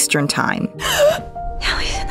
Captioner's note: gasp; Shirley whispering